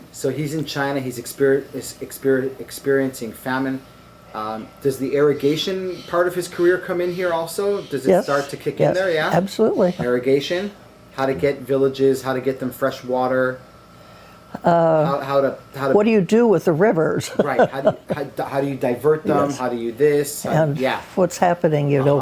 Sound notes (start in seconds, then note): 17.0 laughs